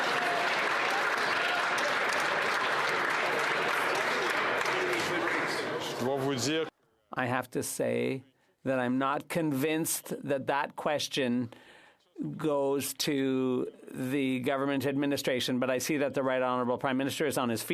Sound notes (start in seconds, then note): 2.3 some Applause